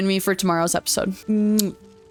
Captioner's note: kiss